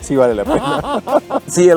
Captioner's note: laughter